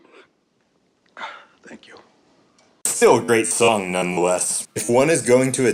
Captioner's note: sneezes